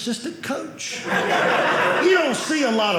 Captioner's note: audience laughing